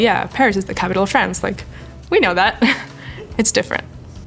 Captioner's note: laughing